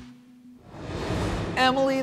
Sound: air swooshing

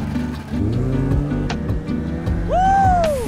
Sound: snowmobile hums

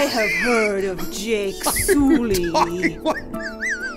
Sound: wheezing laughter

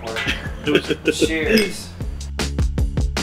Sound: laughs

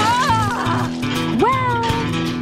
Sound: screaming

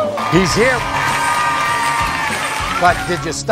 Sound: audience applauding

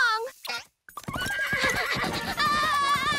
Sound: neighing; screaming

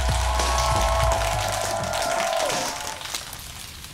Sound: crowd sounds; applause

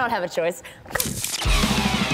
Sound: remote click

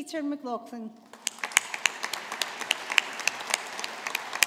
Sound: audience applauding

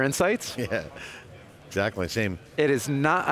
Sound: chuckling

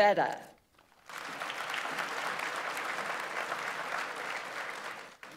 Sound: audience applauds

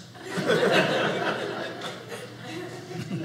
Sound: audience laughing

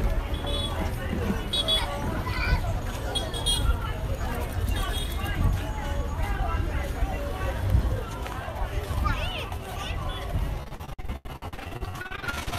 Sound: horns honking

